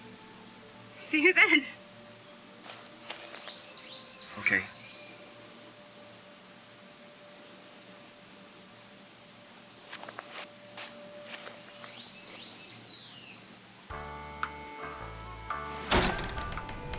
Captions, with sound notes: See you then. - Okay. (slow music) (bird chirps) (slow country music)